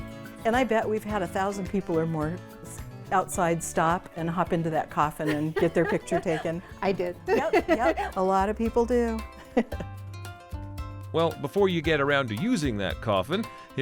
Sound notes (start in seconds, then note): 5.2 laughs